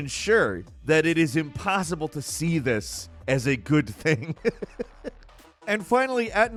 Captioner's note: laughs